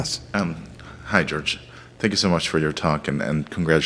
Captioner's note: voiceover